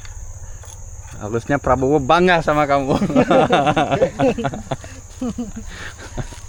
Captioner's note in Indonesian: tertawa